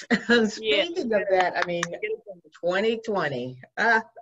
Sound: laughs

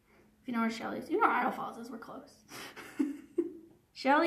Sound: chuckles

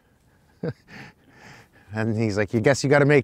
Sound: chuckles

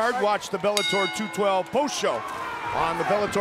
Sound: bell rings

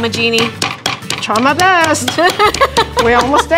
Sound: laughing

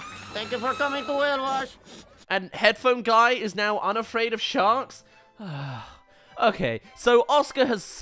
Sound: sigh

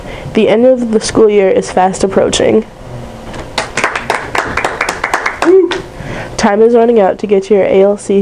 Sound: applause

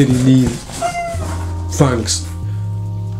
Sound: squeak

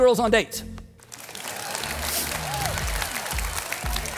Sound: crowd clapping

